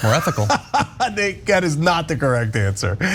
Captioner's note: laugh